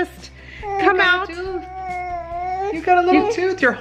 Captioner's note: baby gibberish